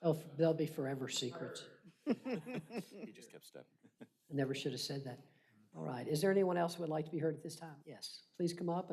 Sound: laughter

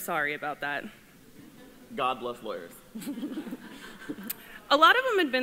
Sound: laughter

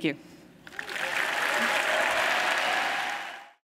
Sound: applause

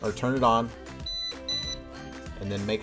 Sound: beep..beep

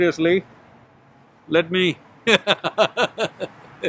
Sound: laughs

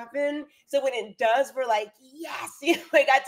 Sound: chuckles

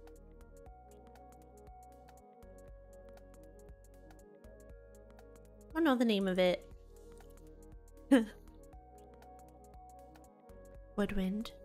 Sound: giggles

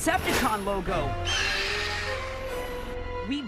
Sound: shrieks

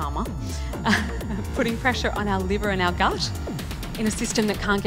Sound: chuckles

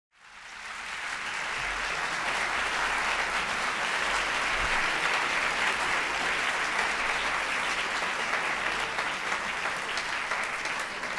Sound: applause

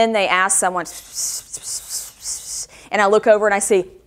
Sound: whispers

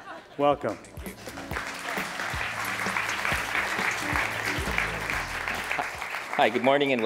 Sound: applause

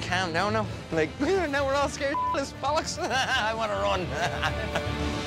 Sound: beep; laughs

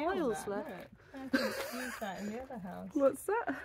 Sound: laughing

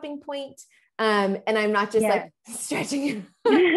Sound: chuckles

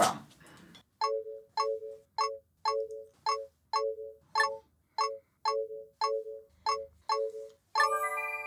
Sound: game acheivement tones

